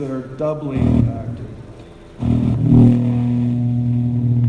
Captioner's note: mic buzzing